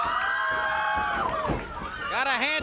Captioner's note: crowd cheering